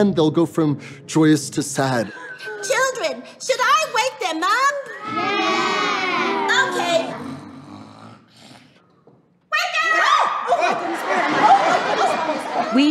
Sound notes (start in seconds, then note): 7.0 snoring